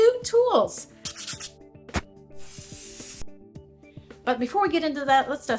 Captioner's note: logo scratching